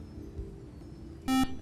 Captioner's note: buzzer